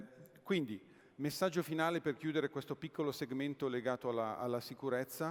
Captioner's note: speaking italian